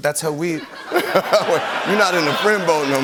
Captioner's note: laughter